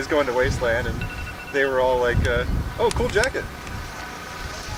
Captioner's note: ringing